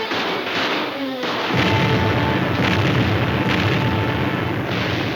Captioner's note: explosions booming